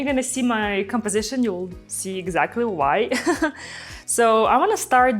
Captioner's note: chuckles